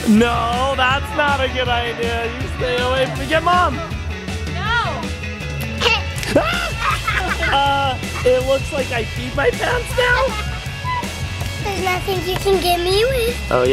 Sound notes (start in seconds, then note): 6.7 screams